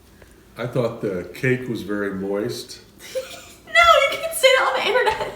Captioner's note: laughing